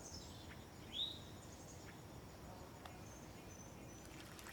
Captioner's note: aves trinando